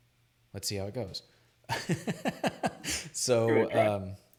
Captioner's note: laughs